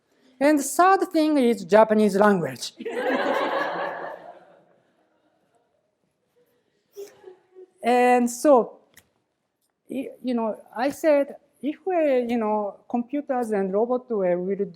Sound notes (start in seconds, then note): 2.8 laughter